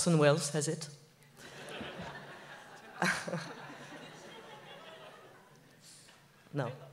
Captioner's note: laughs